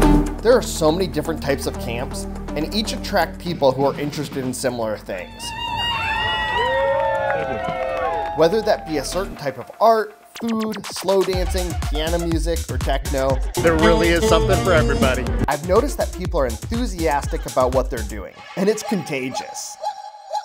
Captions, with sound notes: There are so many different types of camps, and each attract people who are interested in similar things. [crowd applauds] Whether that be a certain type of art, food, slow dancing, piano music, or techno there really is something for everybody. I've noticed that people are enthusiastic about what they're doing and it's contagious.